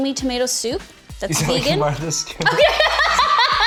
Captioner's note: laughs